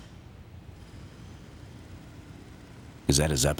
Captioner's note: engine droning outside